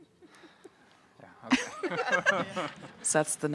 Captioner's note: laughs